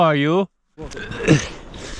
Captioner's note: old english accent; struggling